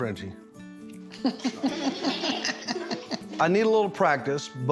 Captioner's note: everyone laughing